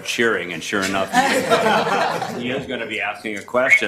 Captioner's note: committee laughter